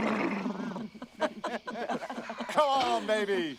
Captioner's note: laughter